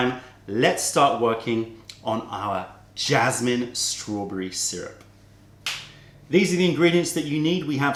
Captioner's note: snaps fingers